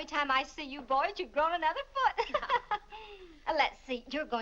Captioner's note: laughs